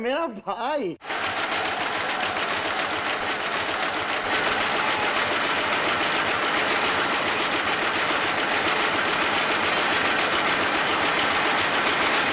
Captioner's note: printing machine rumbling